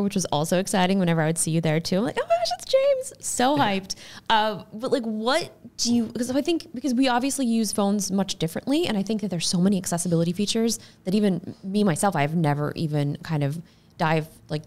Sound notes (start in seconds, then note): 2.8 chuckles